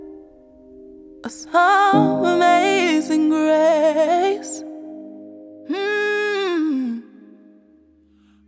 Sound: mmmm

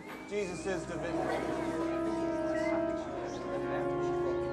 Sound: student whistling; ominous music

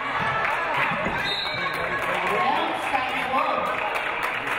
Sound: referee blows whistle

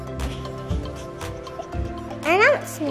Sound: giggles

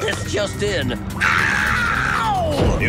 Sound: screaming

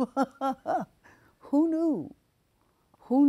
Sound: laughing

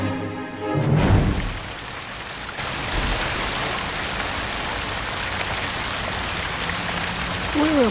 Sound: water noises

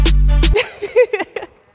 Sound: laughing

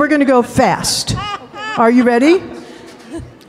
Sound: laughing

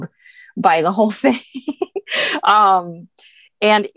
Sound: laughs

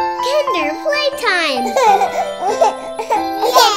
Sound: children laughing

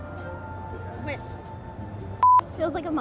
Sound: beep

